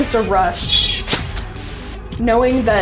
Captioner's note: knife slashing